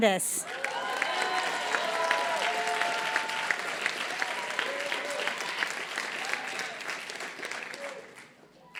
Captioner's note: applause